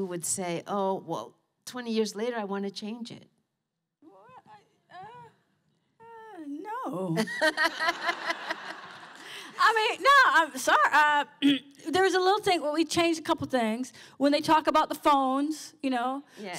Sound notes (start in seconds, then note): 7.2 laughter